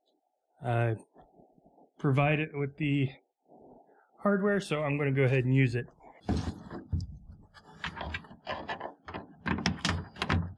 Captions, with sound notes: I'm provided with the hardware, so I'm gonna go ahead and use it. (plastic banging)